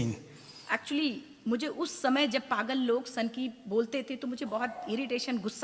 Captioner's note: speaks foreign language